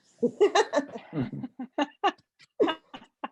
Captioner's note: laughs